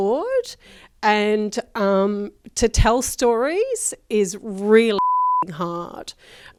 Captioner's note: beep